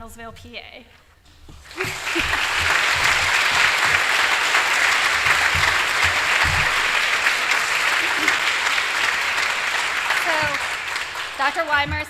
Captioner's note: applause; laughter